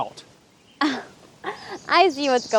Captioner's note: Janet scoffs